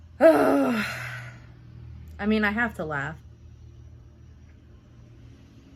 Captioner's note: groans